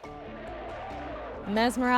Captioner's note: crowds chanting